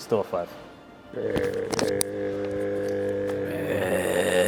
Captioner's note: grunting